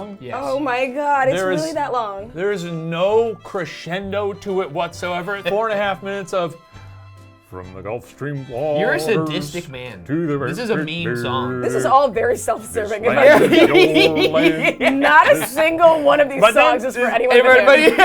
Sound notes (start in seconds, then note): 13.1 laughs